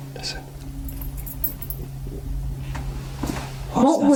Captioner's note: jingling